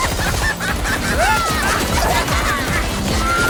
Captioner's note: laughing maniacally; yelps; laughing continues